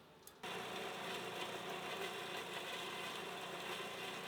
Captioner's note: machinery whirring